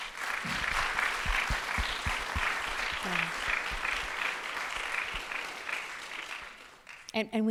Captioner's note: applause